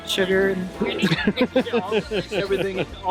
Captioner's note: laughing